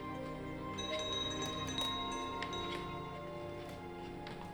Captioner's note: bell rings